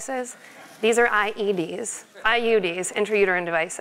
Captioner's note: laugh